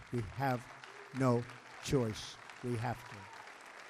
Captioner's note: applause